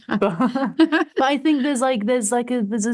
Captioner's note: laughs